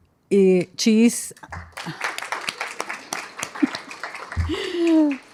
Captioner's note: applause